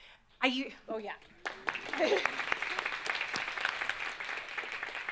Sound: audience claps

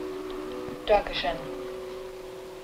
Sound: German spoken audio

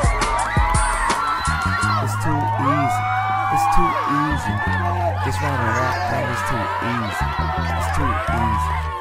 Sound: applause

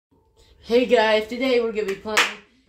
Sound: clap!

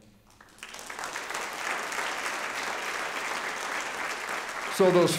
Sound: audience applauding

